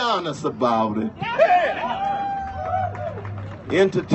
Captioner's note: cheers